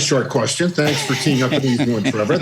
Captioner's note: laughter